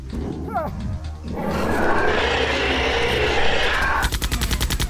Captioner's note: angry roar; gunfire; gears winding down